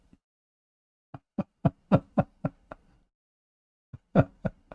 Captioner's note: Ketawa